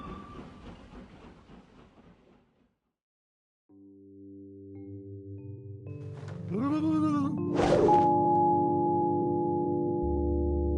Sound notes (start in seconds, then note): 3.8 eerie music; 6.8 ghost blubbers